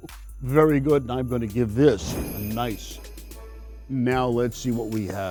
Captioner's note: chuckles; bells ringing